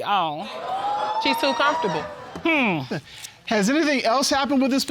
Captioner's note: whooping